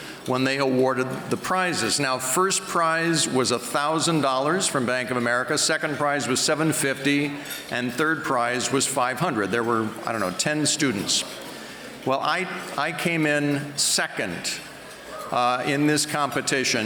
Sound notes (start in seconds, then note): none